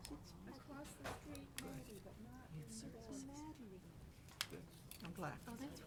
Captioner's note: speaks faintly